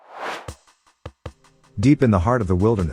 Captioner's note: air swooshes; intriguing music